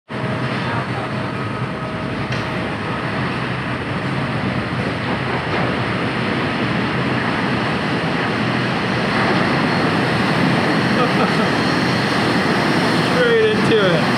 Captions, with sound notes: (laughs) Straight into it.